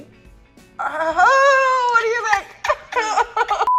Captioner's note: moans; laughs